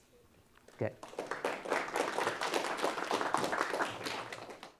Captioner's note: audience clap